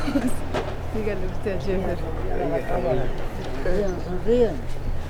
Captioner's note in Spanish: voces vendedores